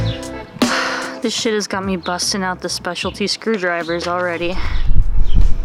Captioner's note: sighs